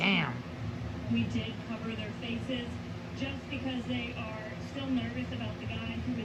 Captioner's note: on TV